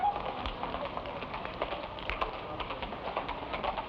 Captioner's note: horse hooves patter